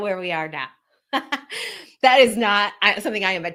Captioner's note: laughs